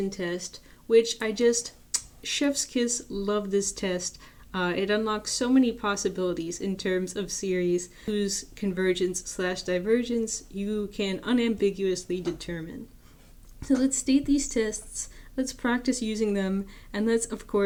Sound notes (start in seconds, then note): 1.9 kiss sound